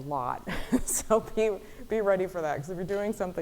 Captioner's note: laughing